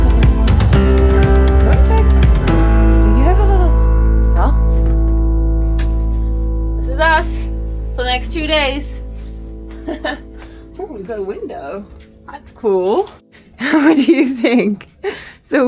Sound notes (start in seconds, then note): 5.7 door shuts; 9.8 speaker laughs; 13.5 speaker laughs